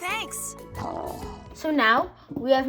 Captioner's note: Charizard grumbles